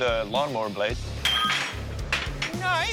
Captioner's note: clangs